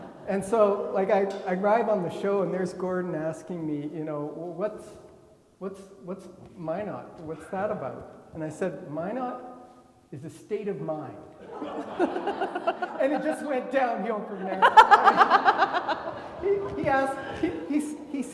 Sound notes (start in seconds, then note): 0.0 everybody laughing; 11.4 everybody laughing